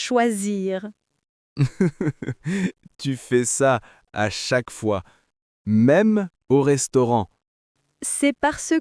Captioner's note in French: rire